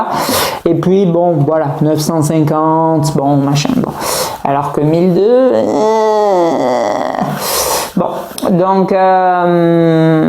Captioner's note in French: gémissement; grognement